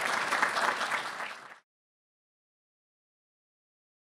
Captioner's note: audience clapping